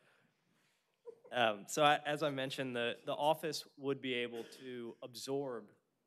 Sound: laughter

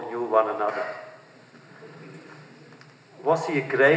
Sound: laughter

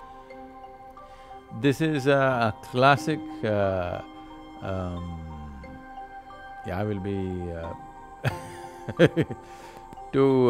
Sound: laughs

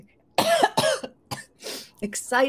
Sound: coughs

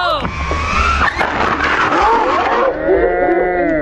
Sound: record screeching

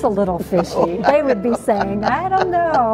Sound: laughs

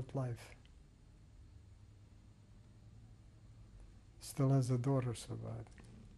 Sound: pauses for 3 seconds

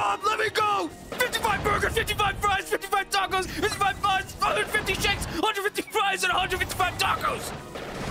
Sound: yelling

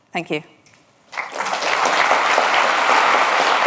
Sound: applause

